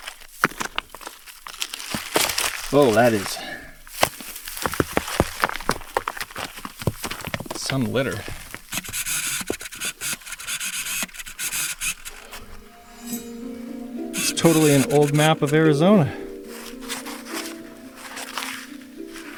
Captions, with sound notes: Oh, that is some litter. (camera buzzing) (soft music) It's totally an old map of Arizona.